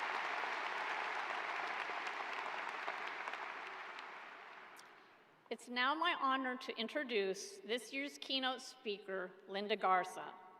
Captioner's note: applause